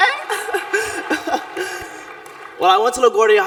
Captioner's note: laughs